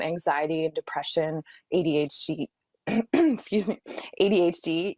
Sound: coughing

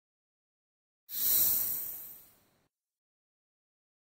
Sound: sound of swish

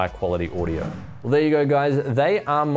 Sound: swoosh

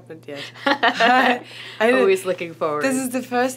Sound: laughs

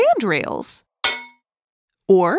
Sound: metal hit sound

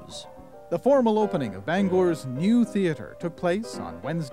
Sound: voiceover

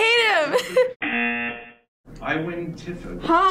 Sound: laughs; buzzer rings

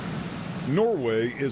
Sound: waves crashing

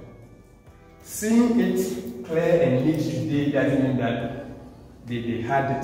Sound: echo overpower the voice

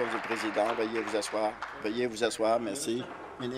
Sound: applause

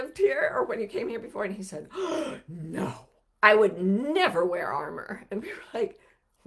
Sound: gasps

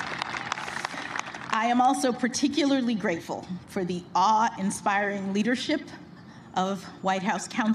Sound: cheers and applause

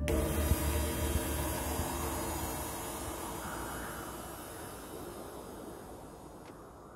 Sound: cymbals swishing; wind whistling

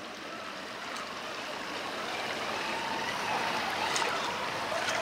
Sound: tires spinning

